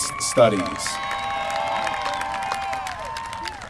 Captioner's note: applause